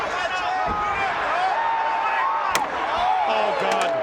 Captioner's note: crowd chatter